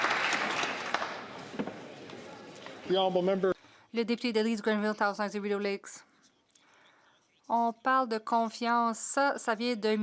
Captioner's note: some Applause